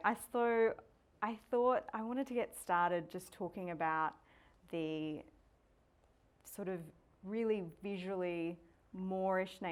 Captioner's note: none